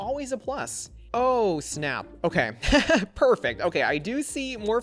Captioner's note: laughs